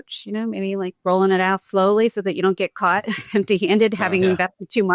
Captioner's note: chuckles